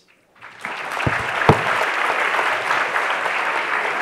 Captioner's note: audience applauds